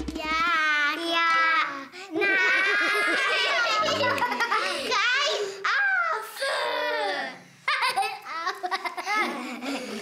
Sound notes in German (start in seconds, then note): 2.2 alle, lachen; 7.1 Schallendes Lachen